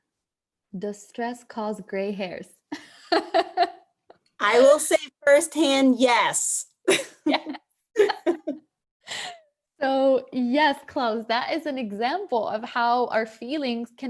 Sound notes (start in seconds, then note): 3.1 laughing; 7.9 both laughing